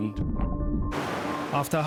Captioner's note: sea bubbles